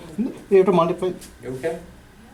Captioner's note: voiceover